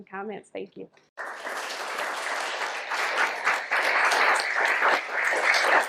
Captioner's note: audience applauds